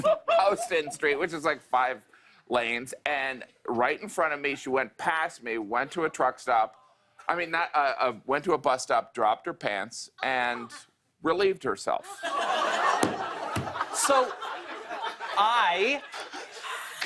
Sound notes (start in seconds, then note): 12.0 laughter